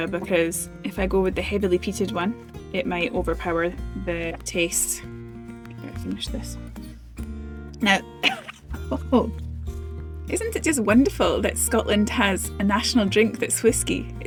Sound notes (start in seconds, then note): 7.9 cough